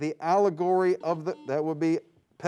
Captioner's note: buzzing sound